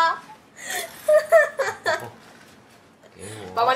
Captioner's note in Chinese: 哈 哈 哈 哈